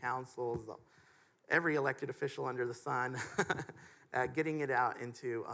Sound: chuckles

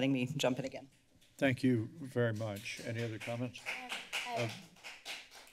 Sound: clapping

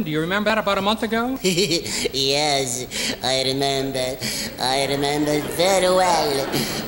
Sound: giggles

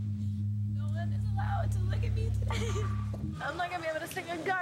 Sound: voice breaking

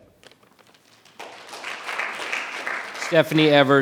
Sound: audience applause

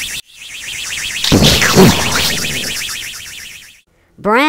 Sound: rocket engine; explosion

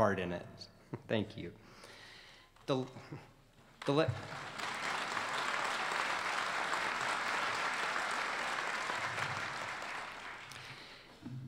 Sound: applause

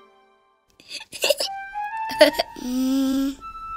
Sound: laughing

